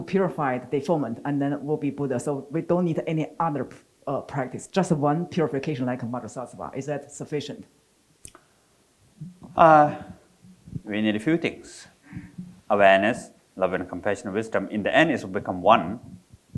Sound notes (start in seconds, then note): 5.9 foreign language